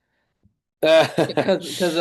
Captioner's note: laughs